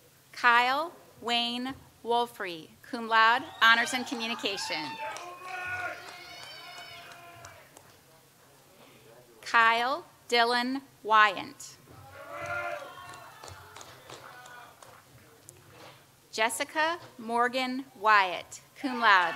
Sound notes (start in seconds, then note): 3.3 audience cheers and applauds; 12.3 audience applauds